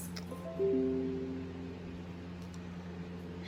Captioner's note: computer sound